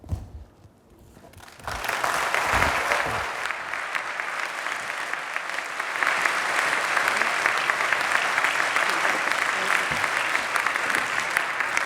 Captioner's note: applause